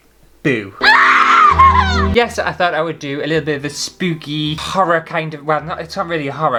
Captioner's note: screaming!!